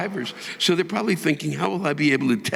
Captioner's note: audience laughing